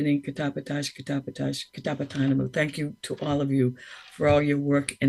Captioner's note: speaks in foreign language